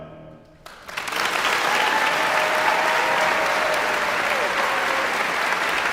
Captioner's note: audience cheering and applauding